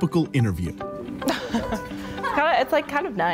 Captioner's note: chuckling